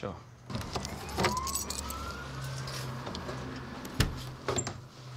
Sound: sirens blare in background

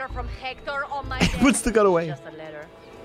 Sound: laughs

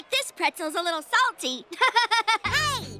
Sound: laughing

